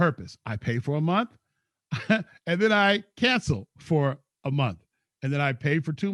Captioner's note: laughs